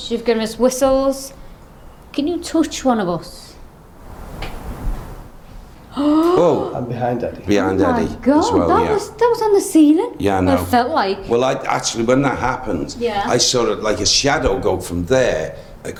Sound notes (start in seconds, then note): 3.7 whooshing faintly; 5.9 gasps